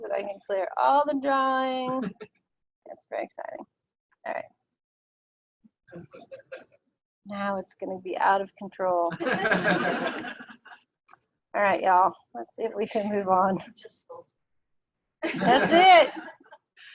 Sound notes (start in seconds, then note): 6.0 laughing; 9.2 audience laughing; 14.9 audio drops